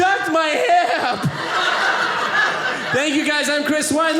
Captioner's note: audience laughing